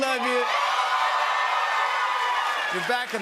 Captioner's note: cheers and applause